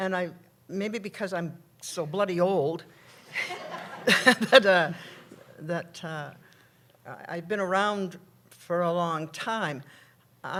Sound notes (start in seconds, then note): 3.2 laughter